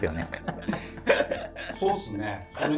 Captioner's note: laughing